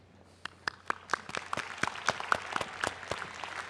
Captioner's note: applause